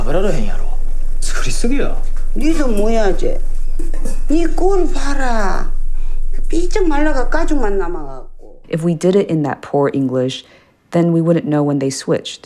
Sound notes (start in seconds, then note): 3.2 soundbite of tv show, "pachinko"; 7.0 as character, speaking non-English language